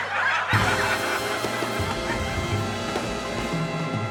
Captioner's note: audience laughing